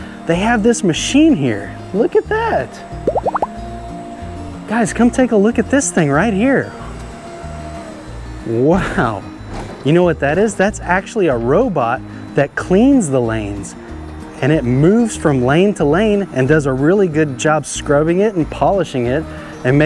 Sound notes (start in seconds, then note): 3.0 graphics pops; 8.7 machine whirring